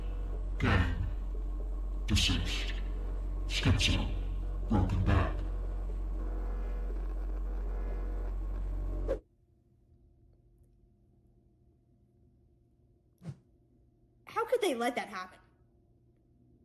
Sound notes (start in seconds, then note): none